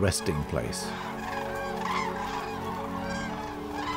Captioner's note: cranes cawing